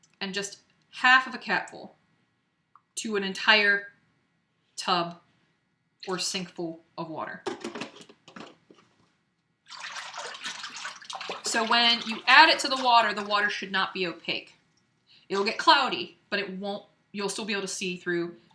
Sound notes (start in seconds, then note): 9.6 splashing